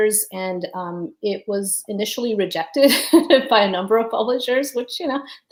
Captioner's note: laughs